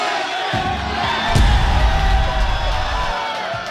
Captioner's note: cheers